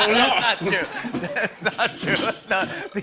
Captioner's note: laughing